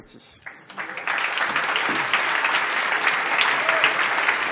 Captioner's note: applause